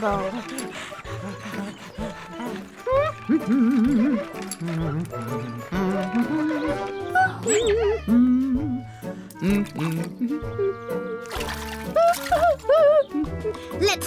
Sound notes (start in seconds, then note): 1.9 Scruff pants; 3.6 hums; 11.1 splashing